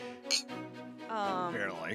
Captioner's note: glasses clink